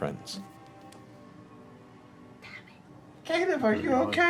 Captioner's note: whispering